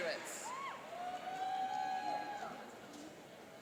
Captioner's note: cheering